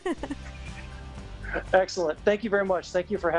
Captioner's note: giggling